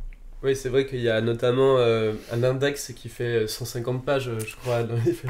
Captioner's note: laughs